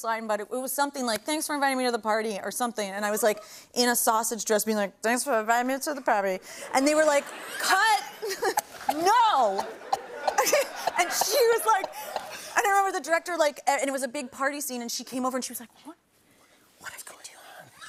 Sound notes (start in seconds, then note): 5.1 slurring; 9.7 laughs